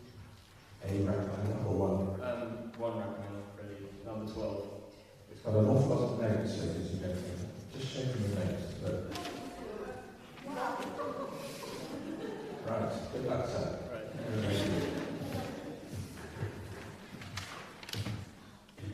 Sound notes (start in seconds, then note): 10.4 exclamations from the audience